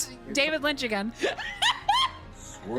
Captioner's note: laughter